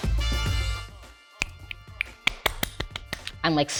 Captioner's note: light music; hands clap; fingers snap